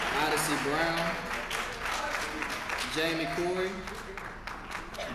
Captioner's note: applause